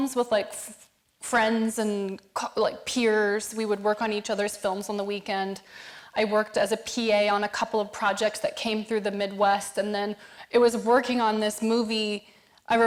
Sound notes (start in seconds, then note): none